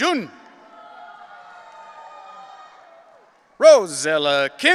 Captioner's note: audience cheering